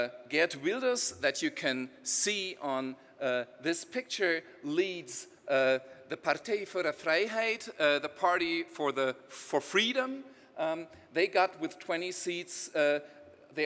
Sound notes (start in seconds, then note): 5.1 speaking in foreign language